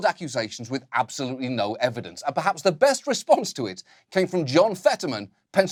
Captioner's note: none